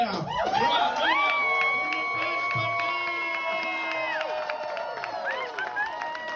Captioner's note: massive applause for a generational talent